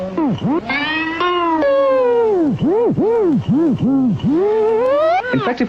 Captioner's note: wacky warps and wobbles